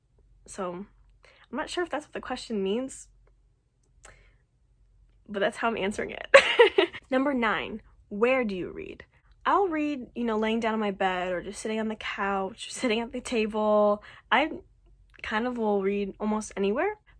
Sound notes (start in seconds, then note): 6.4 laughs